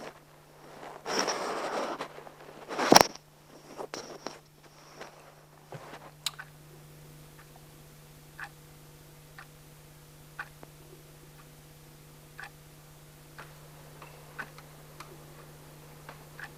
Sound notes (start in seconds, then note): 0.0 mic shuffles & crackles; 9.3 clock ticks